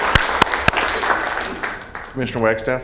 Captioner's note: applause